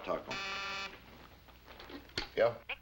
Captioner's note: buzzer